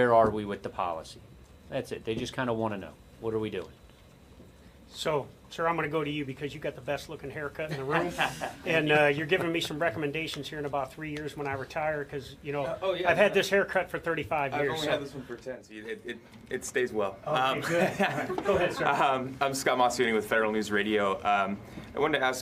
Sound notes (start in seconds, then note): 7.7 audience laughing; 17.5 laughing